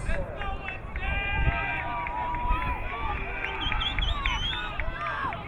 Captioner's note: crowd cheering